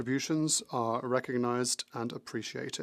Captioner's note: speaking French